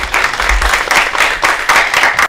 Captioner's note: applause